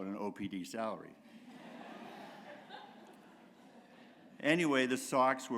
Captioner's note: laughter